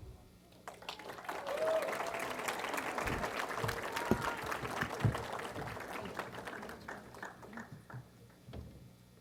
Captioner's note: applause